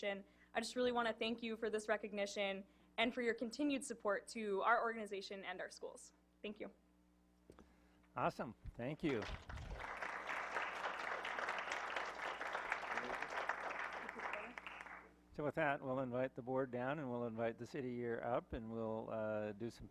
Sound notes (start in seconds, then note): 11.2 clapping